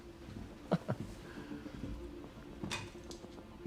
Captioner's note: Chuck chuckles; dramatic music